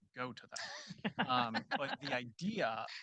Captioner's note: group chuckling